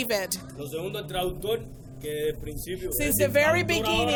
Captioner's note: speaking in foreign language